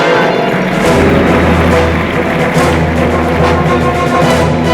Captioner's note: applause